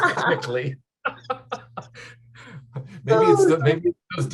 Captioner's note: laughter